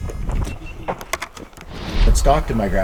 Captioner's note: air whooshing